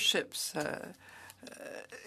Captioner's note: speaking French